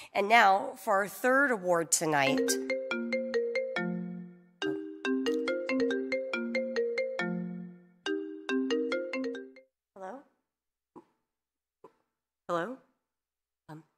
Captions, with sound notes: And now for our third award tonight, (phone ringing) Hello, hello.